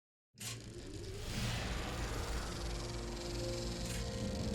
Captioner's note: film reel humming